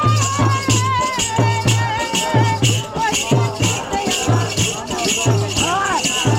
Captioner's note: chanting